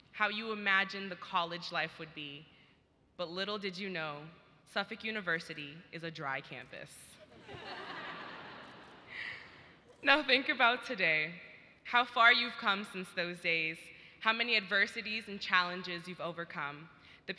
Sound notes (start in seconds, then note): 7.2 audience laughs